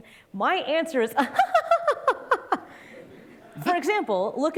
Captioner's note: laughing